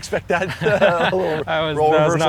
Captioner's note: laughing